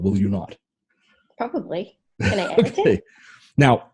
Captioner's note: laughs